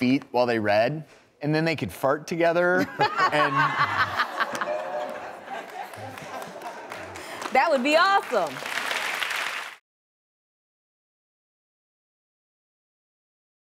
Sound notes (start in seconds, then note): 2.9 laughs; 10.0 audience claps